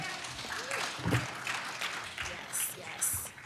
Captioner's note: applause